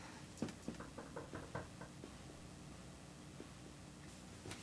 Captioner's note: light knocking